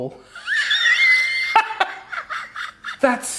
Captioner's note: laughing hysterically